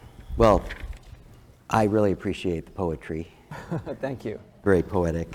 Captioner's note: laugh